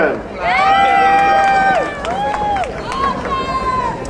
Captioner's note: crowd cheering